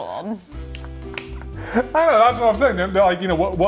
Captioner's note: laughing